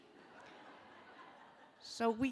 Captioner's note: audience laughing